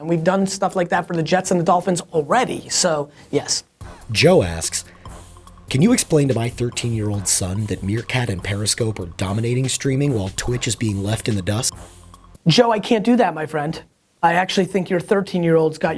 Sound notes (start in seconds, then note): 4.7 voiceover